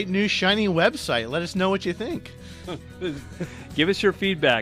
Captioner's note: laughs